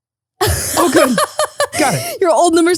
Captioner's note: laughing